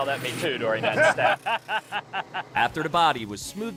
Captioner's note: laughing